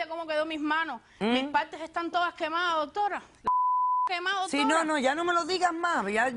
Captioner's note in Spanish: Bip